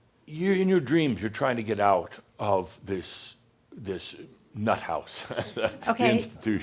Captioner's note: Adamus chuckles